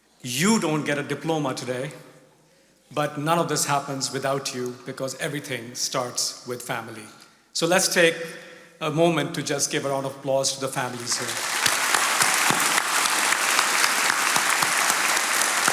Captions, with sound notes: You don't get a diploma today, but none of this happens without you because everything starts with family. So let's take a moment to just give a round applause to the families here. (attendees applauding)